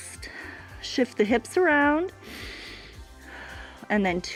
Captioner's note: inhales and exhales